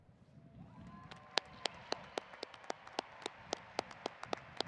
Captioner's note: audience applauding